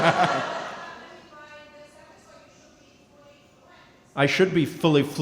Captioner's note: & crowd laughing; speaking softly